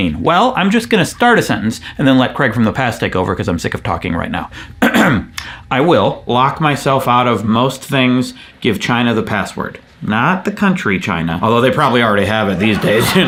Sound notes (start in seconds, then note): 4.8 clears throat